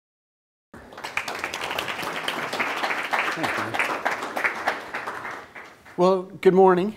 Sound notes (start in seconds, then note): 0.7 applause